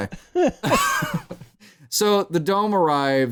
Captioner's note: laughter